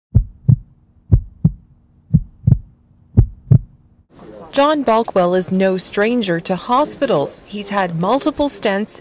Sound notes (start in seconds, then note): 3.1 heartbeat sound in background